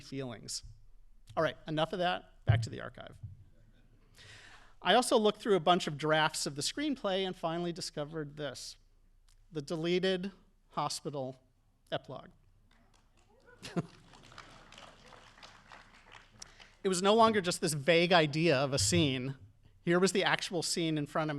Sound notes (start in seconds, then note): 12.8 audience applauding